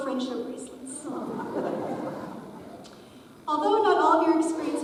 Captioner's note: audience chuckles